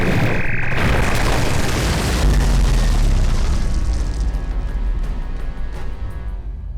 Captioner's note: crashing